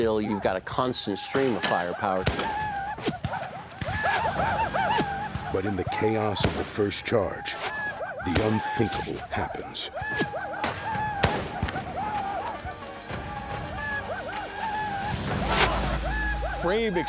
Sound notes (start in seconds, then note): 1.3 gunfire; 2.6 war cries; 9.9 gunfire; 10.2 war cries; 15.2 arrow strikes